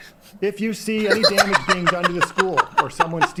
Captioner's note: laughs